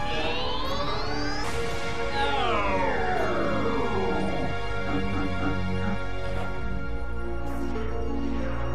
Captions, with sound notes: Yeeeeeessssss? Nooooooooooo *Sad computer noises*